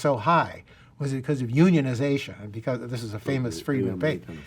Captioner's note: murmurs